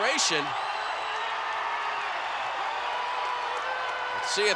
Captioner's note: applause